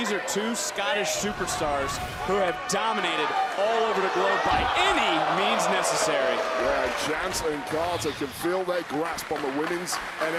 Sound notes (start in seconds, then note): 6.6 crowd clapping